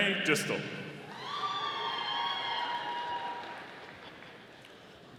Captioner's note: audience applauding